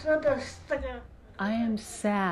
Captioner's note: speaking foreign language